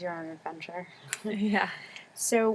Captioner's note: laugh